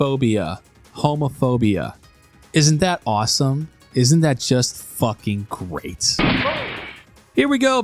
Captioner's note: gunshot